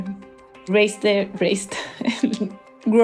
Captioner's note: laughs